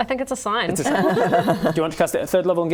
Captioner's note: laughing